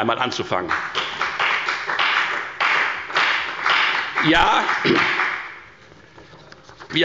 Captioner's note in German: Beifall bei der FDP